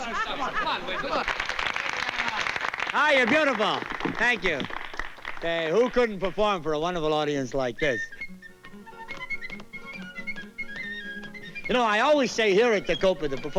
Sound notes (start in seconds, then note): 1.0 applause; 7.7 whistling